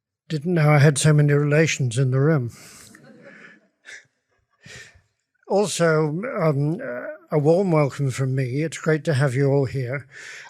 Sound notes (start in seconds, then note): 2.7 audience laughs